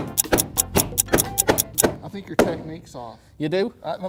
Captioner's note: clock ticking